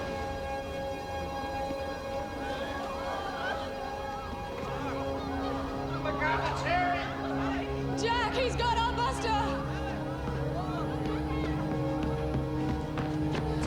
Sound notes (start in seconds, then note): 2.0 crowd marvels